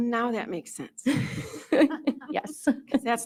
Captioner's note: both chuckle